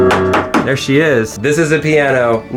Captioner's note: wood banging